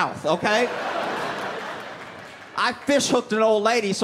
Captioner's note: laughter